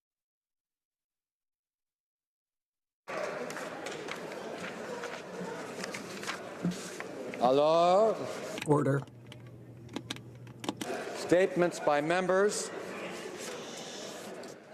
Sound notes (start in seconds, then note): 3.1 applause